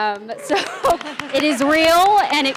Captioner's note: audience applauding